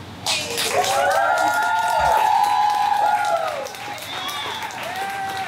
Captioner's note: audience cheers and applauds